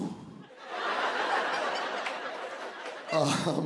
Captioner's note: laughter